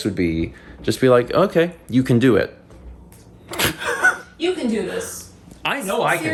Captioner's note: laughs